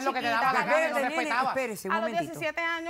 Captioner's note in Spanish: Hablan al unísono